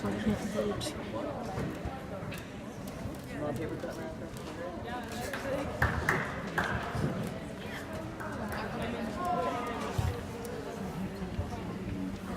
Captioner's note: various students chattering